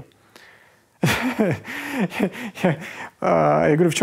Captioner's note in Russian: смеётся